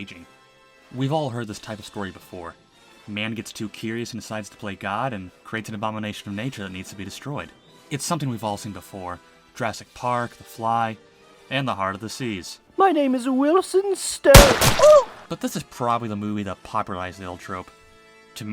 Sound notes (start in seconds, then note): 14.3 gunshot; 14.4 funny Scream